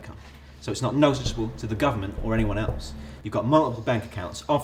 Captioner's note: tap; tap